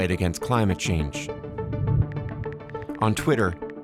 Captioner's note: phone buttons clicking